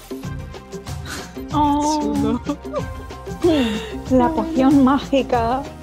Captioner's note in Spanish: Risas